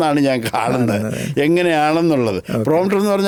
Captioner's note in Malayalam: തൊണ്ട ശരിയാക്കുന്നു